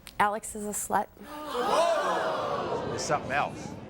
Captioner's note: audience gasps